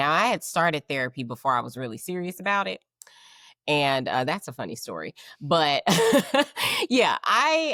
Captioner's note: laughing